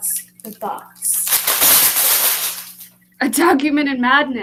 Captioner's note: paper rustling